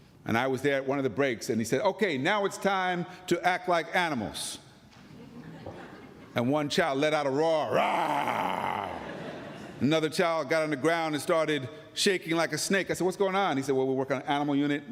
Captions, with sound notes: And I was there at one of the breaks and he said, okay, now it's time to act like animals. And one child let out a roar. [ Roaring ] [ Laughter ] >> Another child got on the ground and started shaking like a snake. I said what's going on? He said, well, we're working on animal unit,